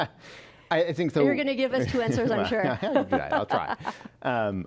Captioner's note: laughs